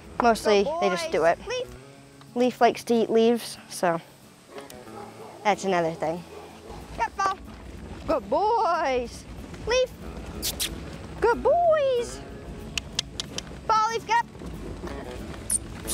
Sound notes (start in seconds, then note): 12.7 clicking with mouth